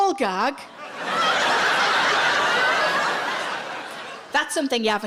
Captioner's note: audience laughs